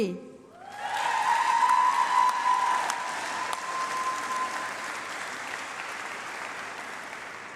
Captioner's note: applause